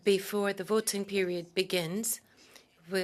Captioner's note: speaking French